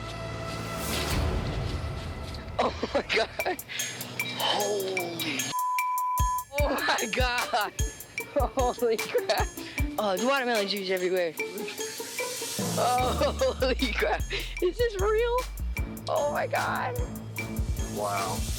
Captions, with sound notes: (tense music) >>Oh my God. (chuckles) >>Holy (beep). >>Oh my God. Holy crap. (chuckles) Oh, there's watermelon juice everywhere. Ho-holy crap. (chuckles) Is this real? Oh my God.